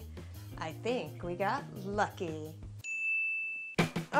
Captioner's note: ding